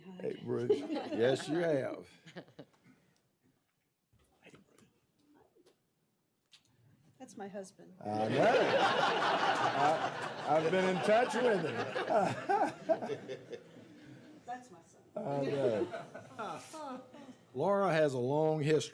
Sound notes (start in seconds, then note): 10.3 laughter